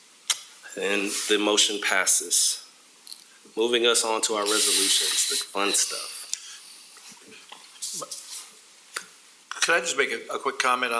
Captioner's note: chorus of ayes